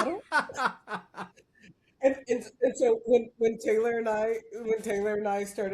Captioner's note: laughs